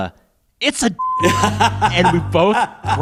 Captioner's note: laughter